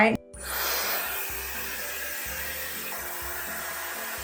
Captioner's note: hairdryer whirring